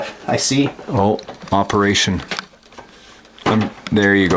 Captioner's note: voiceover